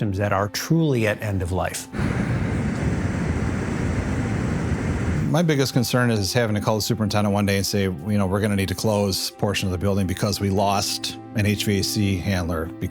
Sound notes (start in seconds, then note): 1.9 air whooshing